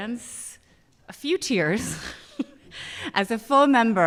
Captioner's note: chuckles